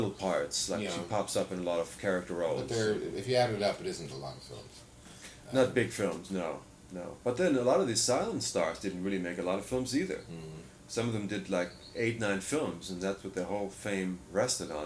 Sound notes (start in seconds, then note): 6.0 laughs